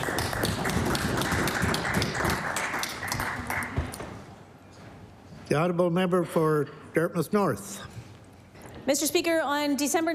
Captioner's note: applause